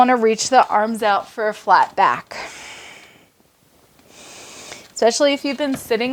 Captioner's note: breaths heavily